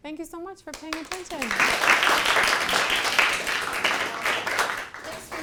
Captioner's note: attendees applauding